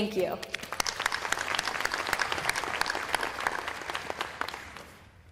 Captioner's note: applause